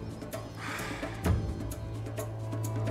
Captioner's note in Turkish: Derin nefes veriyor